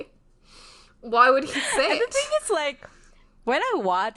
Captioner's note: laughs